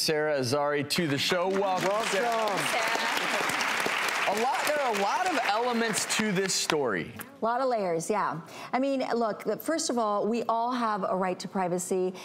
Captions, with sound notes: Sara Azari to the show. (applause) There are a lot of elements to this story. - A lot of layers, yeah. I mean look, first of all, we all have a right to privacy.